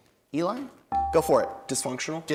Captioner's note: bell rings